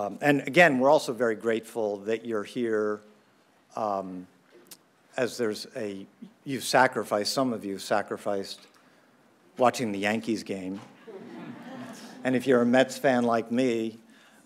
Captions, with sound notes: And again, we're also very grateful that you're here as some of you've sacrificed watching the Yankees game. (Audience laughs). And if you're a Mets fan like me,